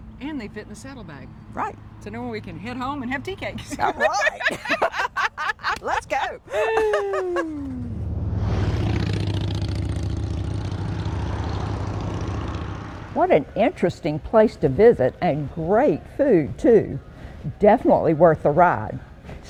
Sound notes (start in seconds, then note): 3.6 both laughing; 8.3 engines roaring